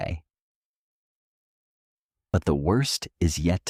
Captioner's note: two-second pause